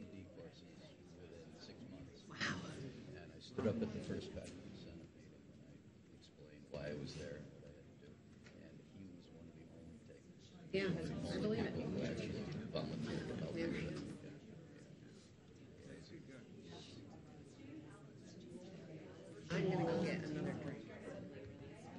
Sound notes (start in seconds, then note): 5.2 speaking faintly; 14.5 audience chatter